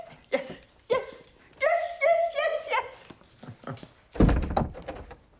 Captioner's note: chuckles